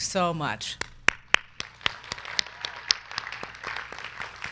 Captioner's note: crowd clapping